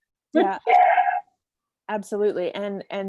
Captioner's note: laughs